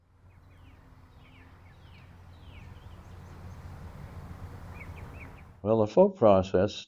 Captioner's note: birds chirping